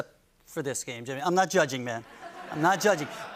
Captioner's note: laughter